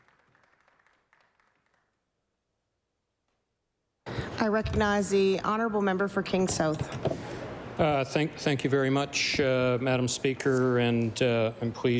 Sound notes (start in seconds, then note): 1.8 applause